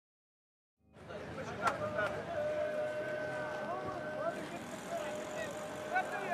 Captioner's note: speaking in a foreign language